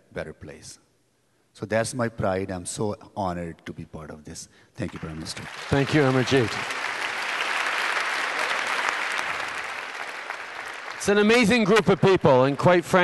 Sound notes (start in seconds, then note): 5.3 applause